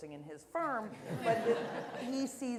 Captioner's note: laughter